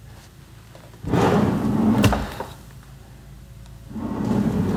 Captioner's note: drawer scraping